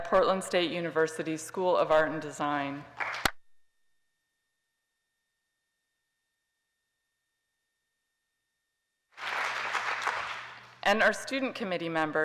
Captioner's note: crowd applause